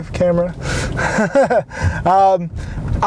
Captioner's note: laughs